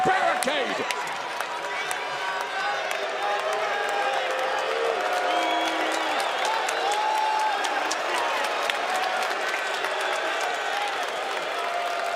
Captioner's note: crowd cheering